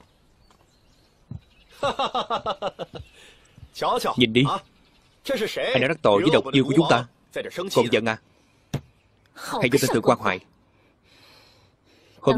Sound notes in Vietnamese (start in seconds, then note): 1.7 Tiếng cười